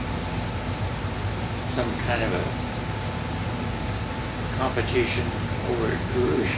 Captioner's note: murmurs